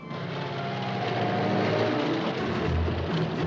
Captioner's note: car engine rumbles; tense orchestral music